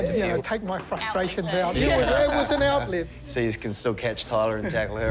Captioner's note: laughter